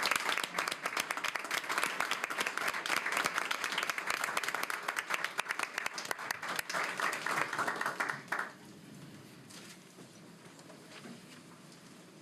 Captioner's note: applause